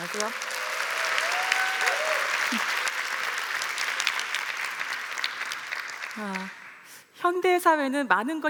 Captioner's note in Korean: 박수와 환호